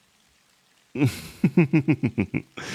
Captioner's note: laughs